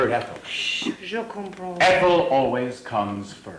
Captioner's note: speaks foreign language